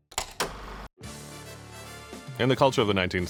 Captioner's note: light music; film reel clacking